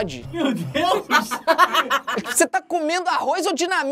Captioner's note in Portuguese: risadas